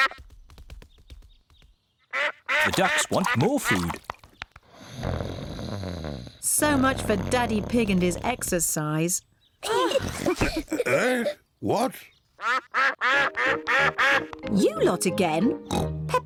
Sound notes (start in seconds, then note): 0.1 quacks; 2.1 ducks quack; 4.7 snoring; 9.7 all laugh; 12.4 ducks quack